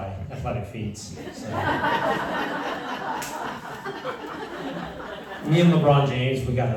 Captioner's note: laughter